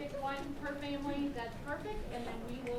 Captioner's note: crowd conversing